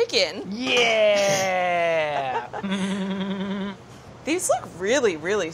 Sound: laughing

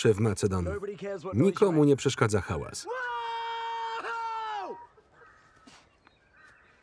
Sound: screams

